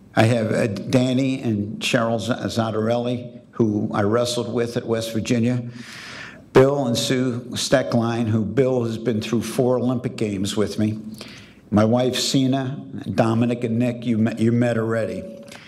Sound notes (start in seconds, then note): none